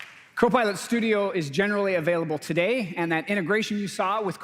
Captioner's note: applause